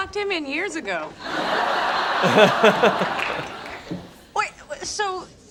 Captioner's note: laugh track and laugh